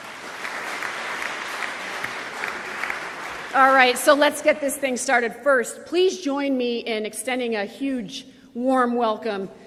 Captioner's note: applause